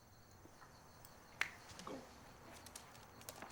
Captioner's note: snaps fingers